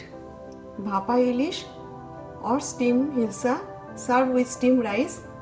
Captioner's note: speaks in foreign language